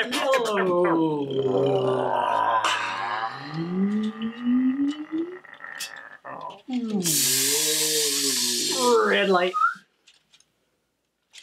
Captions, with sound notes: Yellow light. (All vocalizing very slowly) (long exhale) Red light. (whistles)